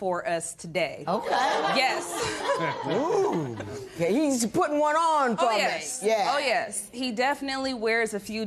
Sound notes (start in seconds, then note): 1.2 laughter